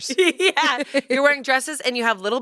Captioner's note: laughs